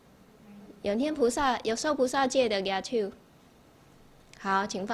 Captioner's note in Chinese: 台语